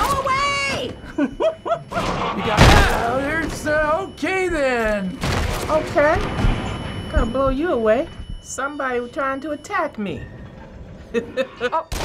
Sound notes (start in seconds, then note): 0.9 giggling; 1.5 startled muttering; 11.0 chuckles